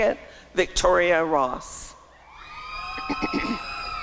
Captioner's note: applause and cheering